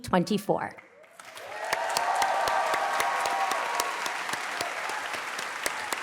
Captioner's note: cheers, applause